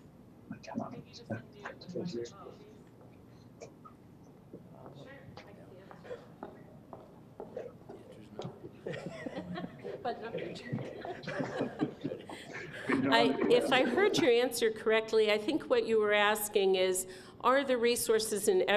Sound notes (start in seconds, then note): 2.6 quietly; 8.7 laughter